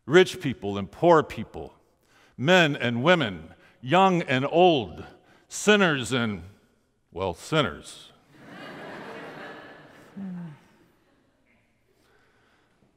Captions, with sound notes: Rich people and poor people. Men and women. Young and old. Sinners and... Well, sinners. (crowd laughing)